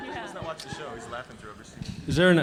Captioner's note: audience laughing; indistinct conversation